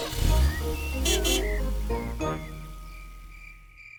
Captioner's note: horn honks